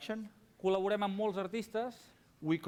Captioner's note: non-english speech